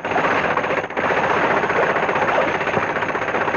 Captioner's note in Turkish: Tek silindirli motorun egzos sesi